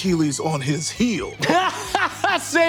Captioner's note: Baubby laughs